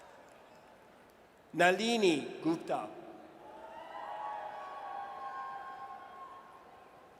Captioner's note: audience cheers